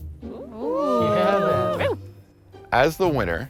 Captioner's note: contestants cheering